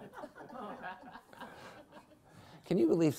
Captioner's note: members of the audience laughing; laughs